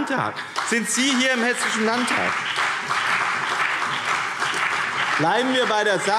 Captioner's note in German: Beifall BÜNDNIS 90/DIE GRÜNEN und CDU